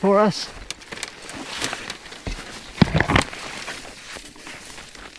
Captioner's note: leaves cracking